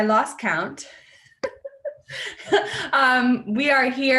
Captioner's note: laughs